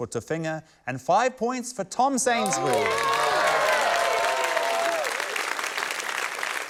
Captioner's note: cheering, applause